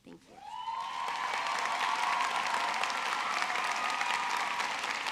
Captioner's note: audience cheering